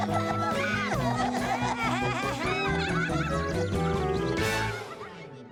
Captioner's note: all laughing